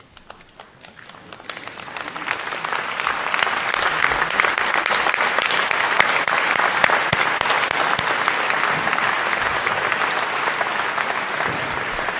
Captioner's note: applause